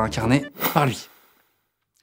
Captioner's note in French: woosh